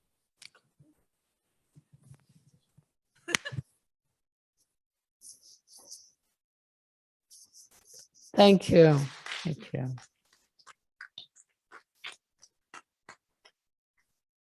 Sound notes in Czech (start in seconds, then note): 4.2 potlesk